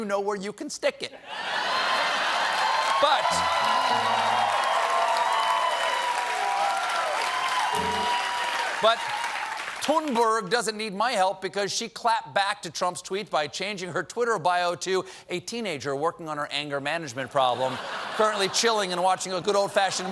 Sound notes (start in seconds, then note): 5.6 cheers and applause; 5.6 piano riff